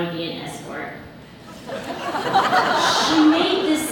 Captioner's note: audience laughs